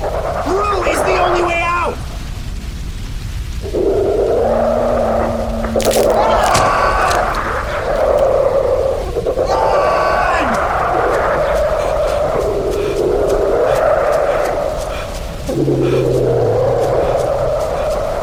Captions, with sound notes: -Through is the only way out! [CRUNCH!] [SHOUTING!] RUN! [Several creatures ROARING]